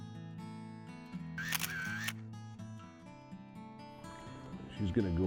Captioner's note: camera shutter clicks